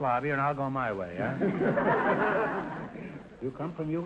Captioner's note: audience laughter